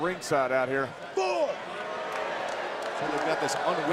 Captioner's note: crowd applauds